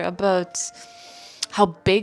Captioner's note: inhales loudly